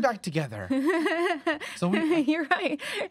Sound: nervous laughing

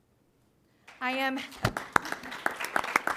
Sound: applause

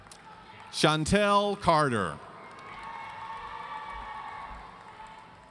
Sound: audience cheering

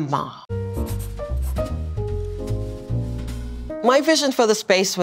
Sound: uplifting jazz music; pencil writing

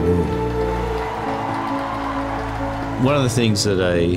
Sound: crowd cheering

